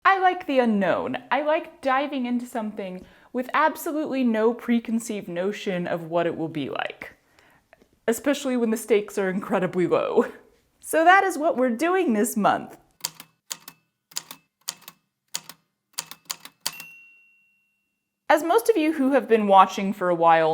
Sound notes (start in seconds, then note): 12.8 A typewriter clicks away, then dings